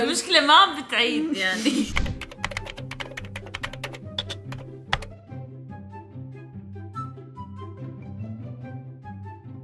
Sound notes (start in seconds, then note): 1.9 typing